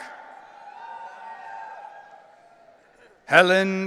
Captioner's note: audience cheering